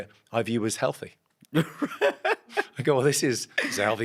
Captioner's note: Ahir laughs